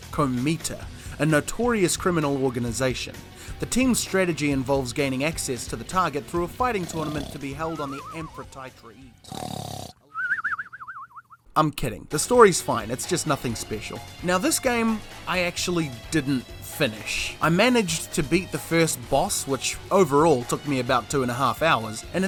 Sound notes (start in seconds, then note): 10.0 sleepy Kiwi sounds